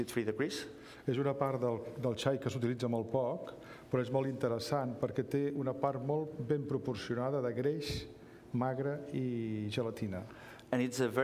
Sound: speaking catalan

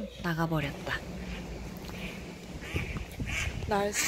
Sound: neighborhood duck quacking

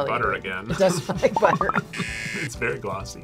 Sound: buzzer

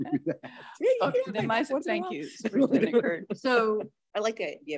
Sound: all laughing

